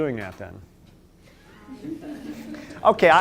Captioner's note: laughter